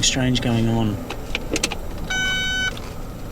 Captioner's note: car alarm beeps